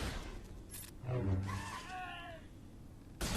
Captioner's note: Wilhelm Scream :D